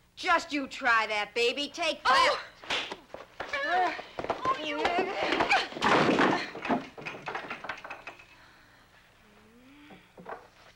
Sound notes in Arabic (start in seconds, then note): 2.3 تأوه